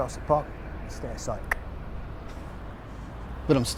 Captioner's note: cheek clicking